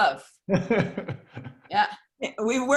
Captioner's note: laughing